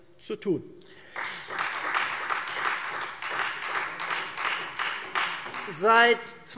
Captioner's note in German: Beifall Freie Demokraten